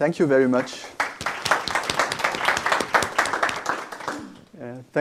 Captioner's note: applause